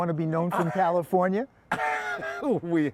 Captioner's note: laughter